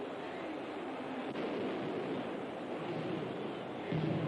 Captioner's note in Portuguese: Explosões ao fundo